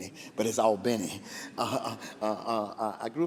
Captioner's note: laughs